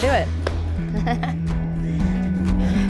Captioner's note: laughing